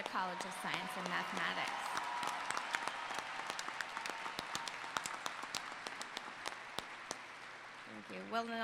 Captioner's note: applause